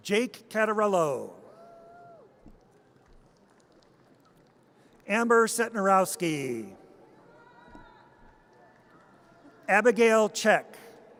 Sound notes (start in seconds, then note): 1.8 audience cheers; 7.3 audience cheers